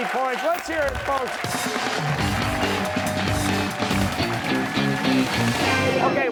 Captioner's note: cheers and applause